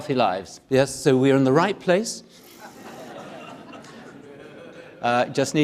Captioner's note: audience laughing